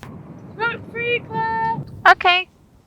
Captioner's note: shouting